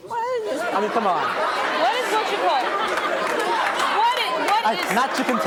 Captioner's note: audience laughs